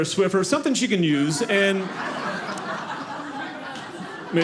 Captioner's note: audience laughing